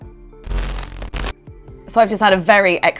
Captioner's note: static